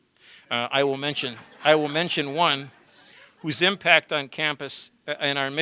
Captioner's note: laughter